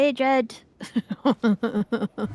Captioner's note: laughing